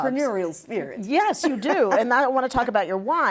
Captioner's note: laughing